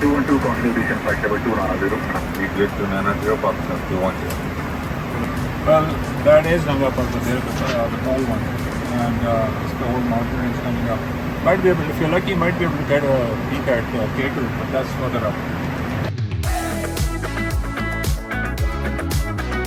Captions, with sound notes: (air traffic control speaking in background) (engine drowns out pilot) And, that's the whole mountain range coming up. If you're lucky, might be able to get a picture of K2, but that's further up. (upbeat music)